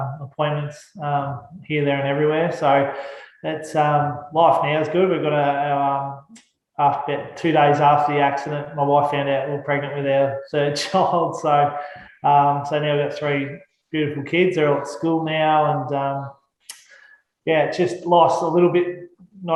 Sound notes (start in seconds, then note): 10.7 laughs